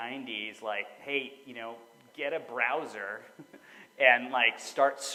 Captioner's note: chuckles